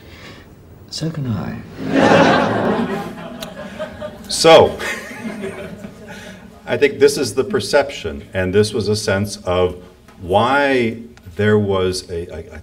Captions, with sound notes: - So can I. (audience laughs) - So (laughs) I think this is the perception, and this was a sense of why there was a,